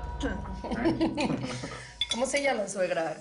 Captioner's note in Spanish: Risas